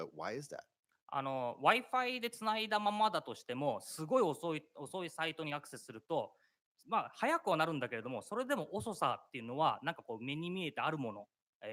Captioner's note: speaking japanese